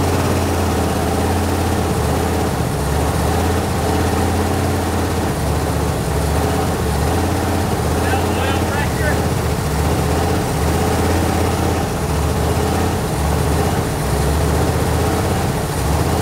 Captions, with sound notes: - Let up a little pressure. (engine continues to rev)